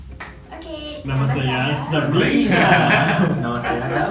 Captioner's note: in Malay